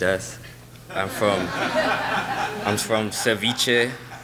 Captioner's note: laughing